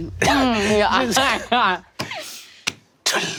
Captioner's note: laughs